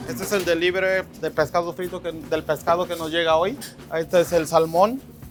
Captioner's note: speaks Spanish